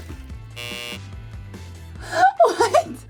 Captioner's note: buzzer buzzes